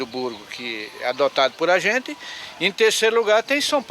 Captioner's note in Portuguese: Canto de pássaros